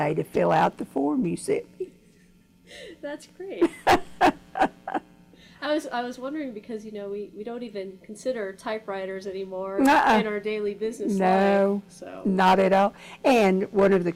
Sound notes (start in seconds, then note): 3.6 laughs